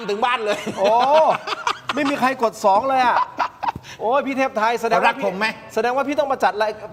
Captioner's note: laughter